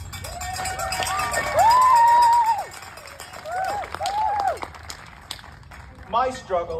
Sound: cheers

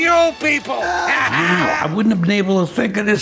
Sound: laughs

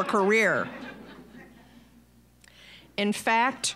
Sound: all laughing

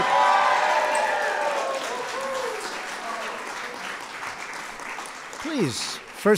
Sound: applause

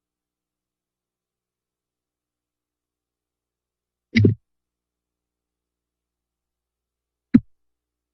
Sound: silence

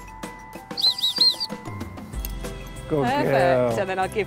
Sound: blows whistle 3 times in quick succession

